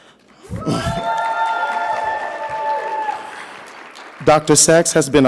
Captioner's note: audience cheering